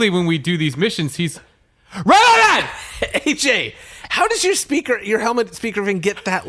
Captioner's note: shouting